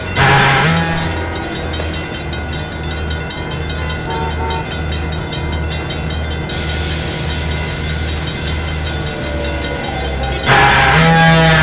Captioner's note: F7A powering down